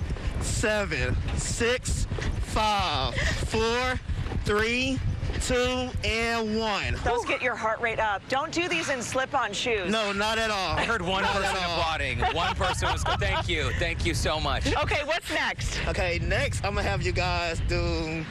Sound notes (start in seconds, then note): 10.6 laughter